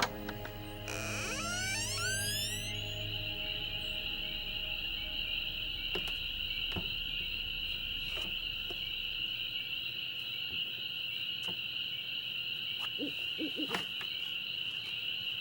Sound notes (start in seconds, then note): 0.0 creaky door opening; 4.5 crickets chirping; 12.9 owl hooting